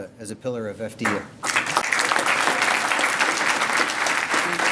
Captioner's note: applause